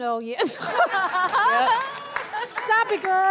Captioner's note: audience laughing